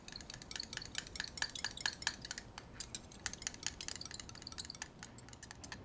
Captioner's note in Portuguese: mexedor batendo